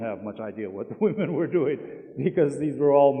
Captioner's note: chuckling